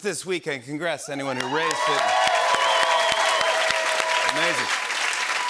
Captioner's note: cheers and applause